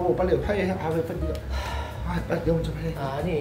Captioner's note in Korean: 하아